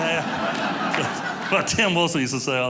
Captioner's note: audience laughing